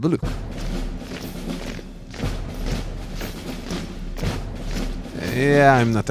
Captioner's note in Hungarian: Katonai zajok